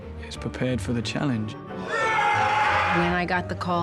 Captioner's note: all screaming